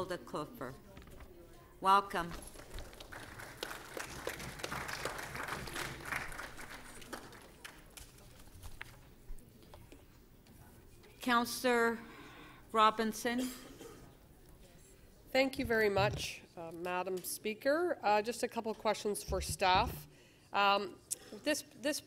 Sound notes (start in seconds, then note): 7.9 applause